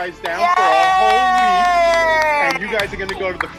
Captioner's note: claps